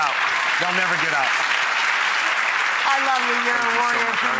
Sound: audience clapping

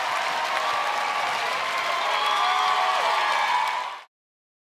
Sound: audience cheering

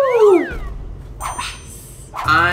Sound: bell dings

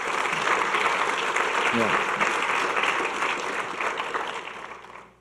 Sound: audience clapping

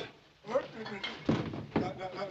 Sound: stammering

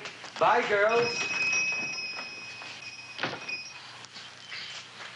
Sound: doorbell jingling

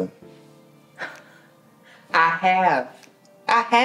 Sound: laughs

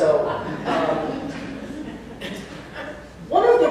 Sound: laughter

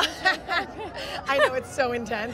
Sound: both ladies laughing

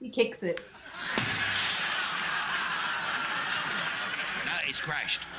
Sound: audience laughing; glass breaking

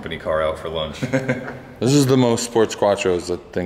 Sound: laughter

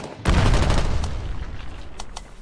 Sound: ratatatatata; boom

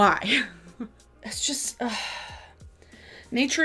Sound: laughs; sighs

